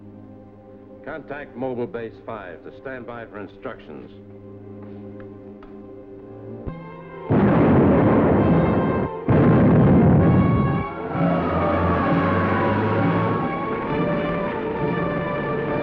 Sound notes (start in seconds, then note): 6.3 dramatic music; 7.3 bombs exploding; 11.4 sirens wailing